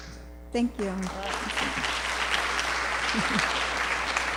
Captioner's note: applause